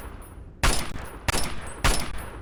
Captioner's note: bang!